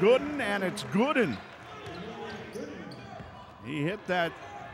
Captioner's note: yelling